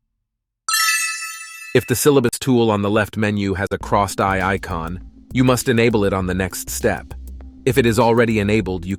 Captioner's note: idea cling